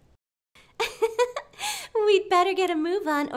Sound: laughs

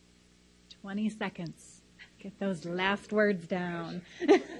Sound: laughs loudly

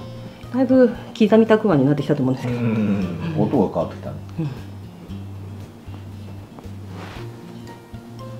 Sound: laughs

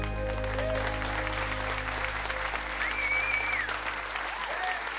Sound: cheers and applause

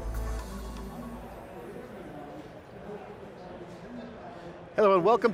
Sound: upbeat music; group chattering

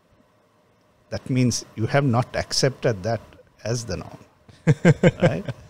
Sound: laughs

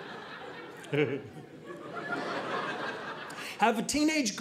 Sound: audience laughing

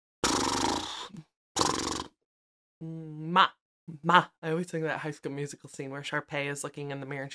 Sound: weird mouth sounds

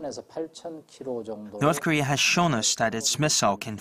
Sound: Korean

